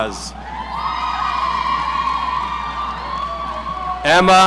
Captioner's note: audience cheering